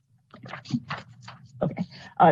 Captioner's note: paper shuffling